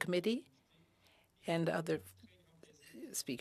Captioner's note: speaking French